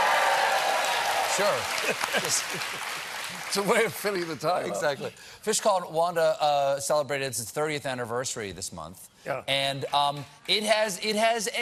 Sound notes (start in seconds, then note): 3.7 cheers and applause